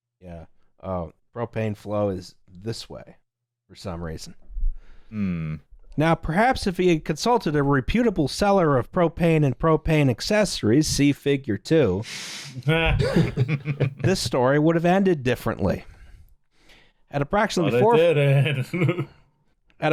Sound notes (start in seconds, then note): 12.7 laughter; 17.7 laughs